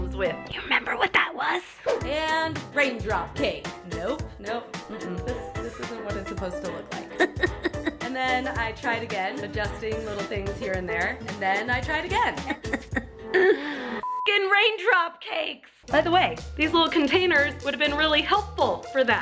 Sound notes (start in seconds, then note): 7.1 evil cackle; 12.3 evil cackle continues; 13.4 exasperated inhale